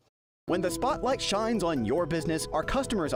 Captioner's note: voiceover